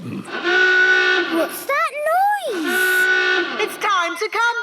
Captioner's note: horn honking; honking